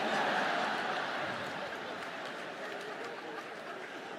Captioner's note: audience laughs